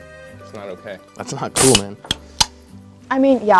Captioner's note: can opening